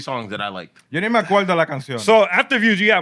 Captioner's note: speaking Spanish